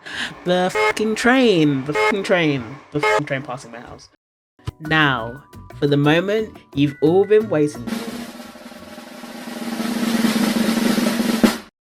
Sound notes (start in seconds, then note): 0.0 angry inhale; 0.7 honk; 3.4 train passing noises; 7.8 drum roll